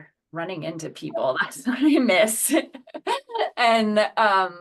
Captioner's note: laughs